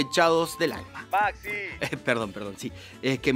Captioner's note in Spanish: voz en off